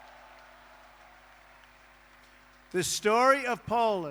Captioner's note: applause